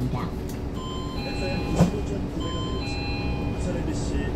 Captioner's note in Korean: 하차벨 소리